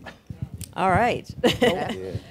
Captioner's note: laughter